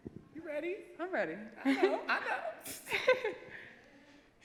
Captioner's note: laughs